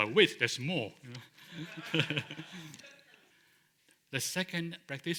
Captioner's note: laughter